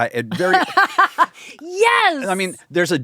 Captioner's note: laughs